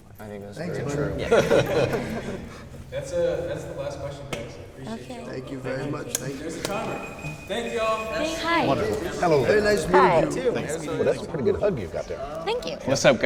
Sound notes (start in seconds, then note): 1.2 laughter; 3.1 offscreen voice